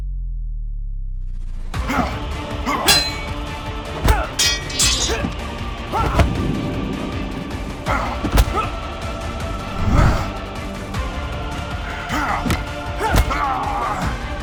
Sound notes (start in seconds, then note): 2.6 metal clanking; 5.4 dramatic music; 7.8 both moaning; 9.7 dramatic music